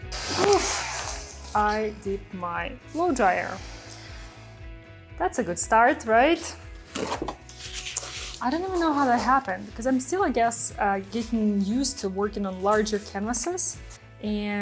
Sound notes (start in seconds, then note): 6.7 art materials rattle; 6.7 paper rustles